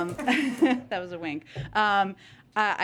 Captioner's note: laughter